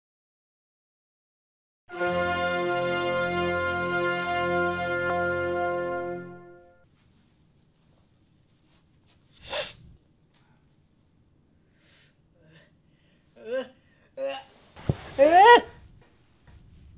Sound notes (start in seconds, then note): 1.9 dramatic music; 9.3 sniffles